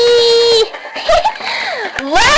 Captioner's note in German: Alle Kichern